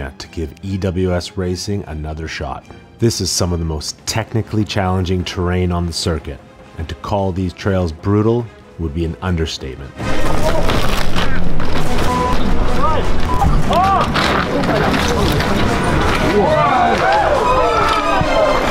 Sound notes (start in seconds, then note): 10.3 dramatic music; 11.5 crowd; 12.2 dramatic music; 14.8 crowd; 14.8 dramatic music